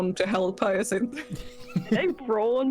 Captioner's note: laughter